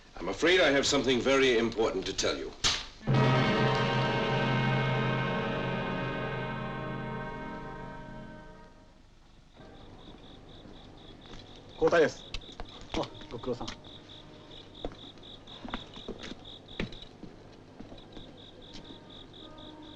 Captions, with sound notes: - I'm afraid I have something very important to tell you. (dramatic music) (insects chirping) (speaking in foreign language)